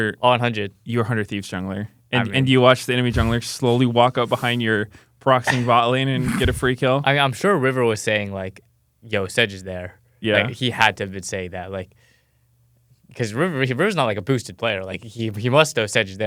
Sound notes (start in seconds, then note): 5.4 laughs